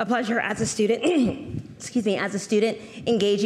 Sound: clears throat

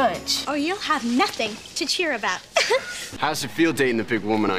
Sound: giggles

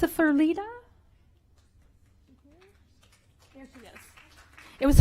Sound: applause

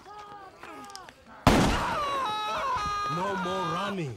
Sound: gun firing

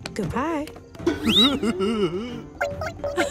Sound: chuckles; Ms. Tab laughing

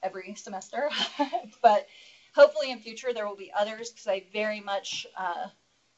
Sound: laugh

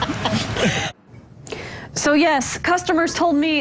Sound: laughter

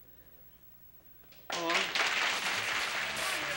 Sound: applause

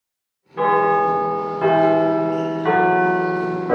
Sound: bell ringing

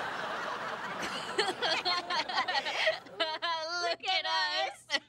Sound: both laughing

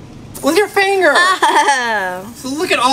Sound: assistant giggles

